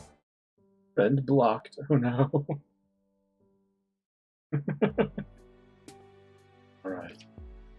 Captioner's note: laughs